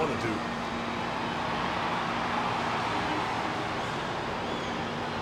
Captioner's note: crowd cheering